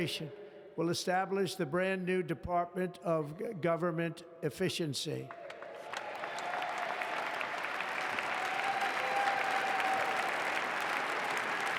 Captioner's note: applause